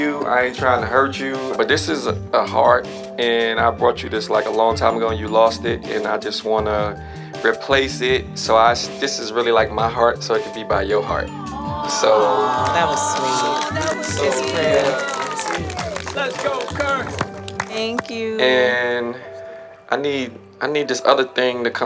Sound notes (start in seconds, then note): 11.5 crowd cheering